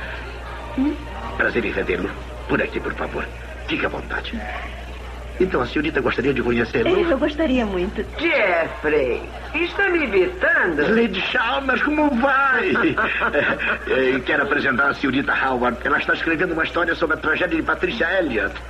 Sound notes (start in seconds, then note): 12.2 chuckles